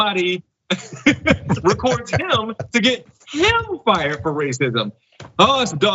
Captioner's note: laugh